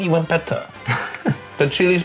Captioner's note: laughs